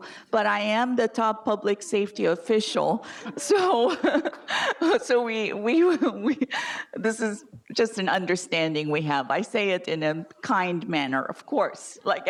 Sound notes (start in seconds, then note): 3.1 laughs